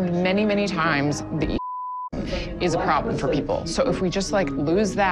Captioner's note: beep